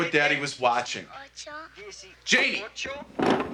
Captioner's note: The Count, girl</i> <i> counting in Spanish